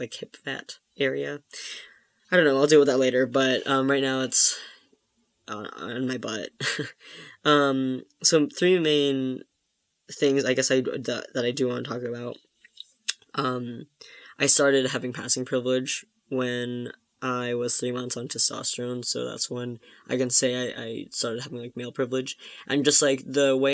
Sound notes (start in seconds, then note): 6.6 laughs